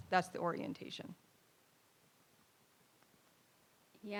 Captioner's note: none